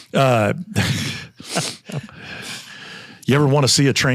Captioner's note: group laughs